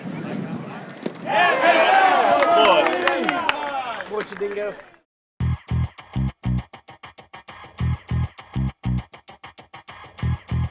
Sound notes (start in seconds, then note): 1.2 cheering; 5.6 dance music